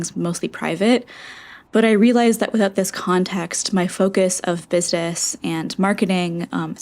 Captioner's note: inhale